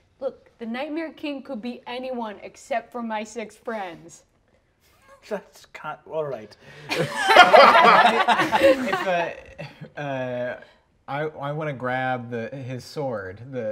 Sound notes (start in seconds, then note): 6.8 players laughing